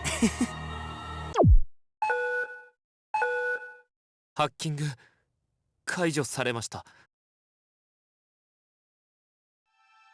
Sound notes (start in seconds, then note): 0.0 chuckle; 8.3 silence